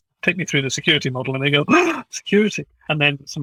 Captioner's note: gasp